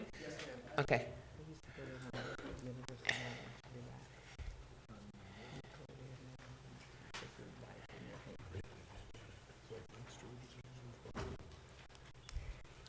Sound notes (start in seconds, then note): 4.3 board chatting quietly